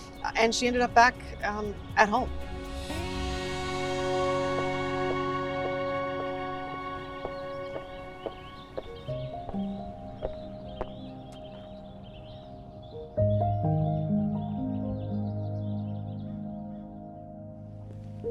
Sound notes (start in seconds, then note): 6.6 shoes clicking on pavement; 9.4 light music